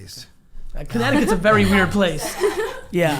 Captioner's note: laughing